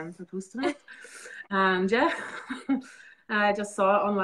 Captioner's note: both laughing